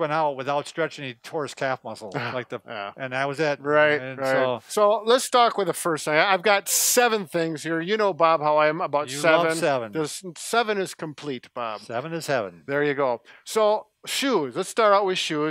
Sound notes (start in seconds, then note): 2.1 laughs